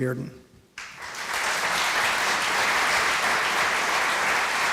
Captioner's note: applause